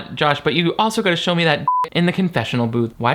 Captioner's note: beep